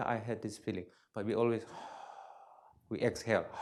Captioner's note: exhales